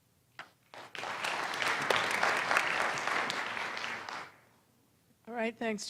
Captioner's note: applause